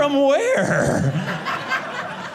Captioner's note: audience laughing